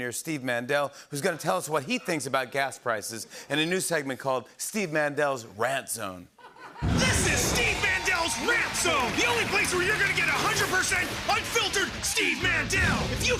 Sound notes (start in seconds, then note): 6.4 laughter; 6.8 cheering and applause